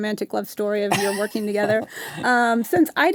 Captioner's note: laughs